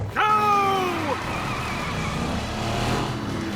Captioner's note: truck engines roaring